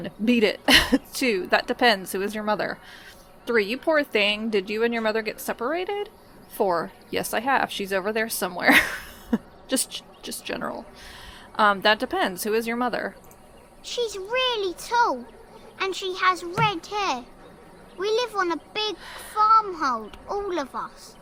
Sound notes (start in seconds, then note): 8.7 laughs